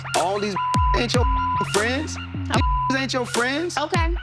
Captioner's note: beep